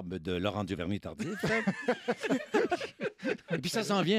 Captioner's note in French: rires